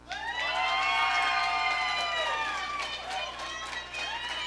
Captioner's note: audience cheering